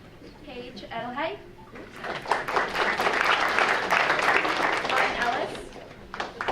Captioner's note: audience applauding